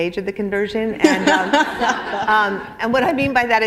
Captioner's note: laughter